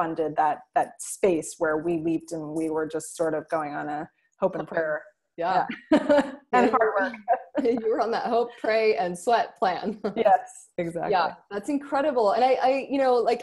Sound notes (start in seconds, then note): 5.7 both laughing; 10.6 laughs